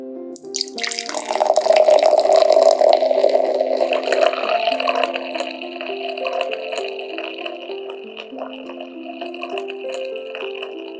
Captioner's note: effervescent pouring